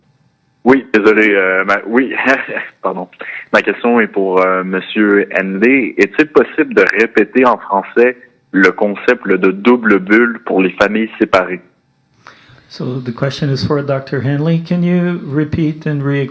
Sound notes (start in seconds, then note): 3.0 speaking French